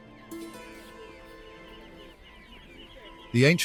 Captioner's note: birds chirping